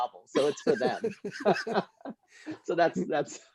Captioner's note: laughter